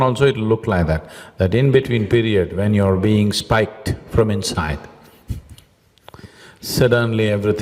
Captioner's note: laughs